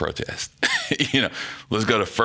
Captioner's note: laughing